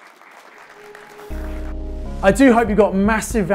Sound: audience applause

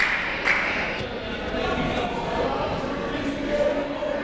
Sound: clapping

